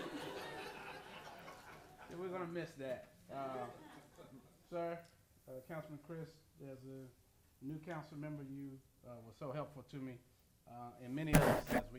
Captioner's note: laughter